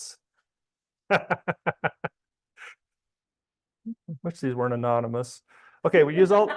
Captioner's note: laughs